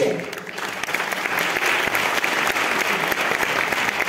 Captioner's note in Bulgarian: аплодисменти